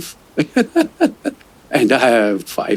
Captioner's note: laughter